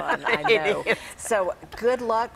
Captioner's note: laughing